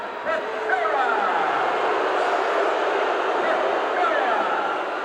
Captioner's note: crowd boos